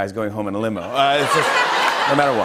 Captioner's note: laughter